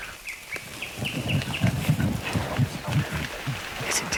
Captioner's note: birds chirping